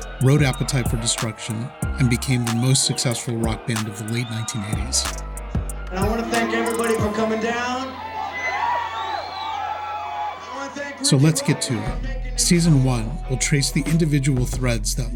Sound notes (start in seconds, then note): 8.3 audience cheering